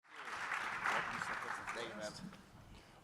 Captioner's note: audience applauds